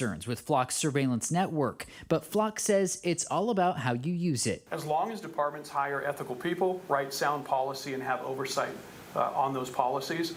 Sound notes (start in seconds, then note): none